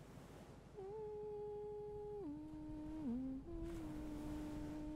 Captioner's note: gentle humming